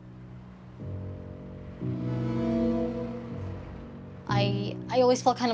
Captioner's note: soft gloomy music; bus honking